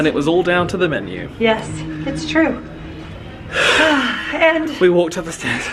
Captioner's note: deep sighing